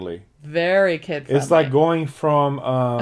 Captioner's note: laughs